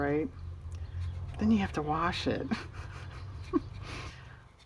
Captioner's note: laughs